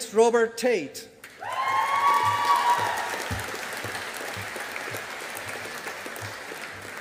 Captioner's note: audience applauding